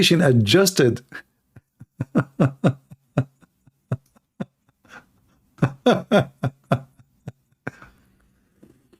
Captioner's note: Ketawa